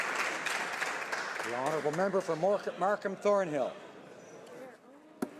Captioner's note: some Applause